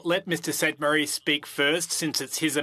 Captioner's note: speaking French